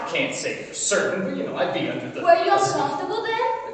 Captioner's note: mumbles excuses